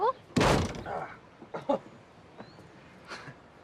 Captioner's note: thud; softly grunts